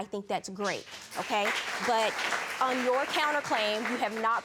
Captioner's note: audience clapping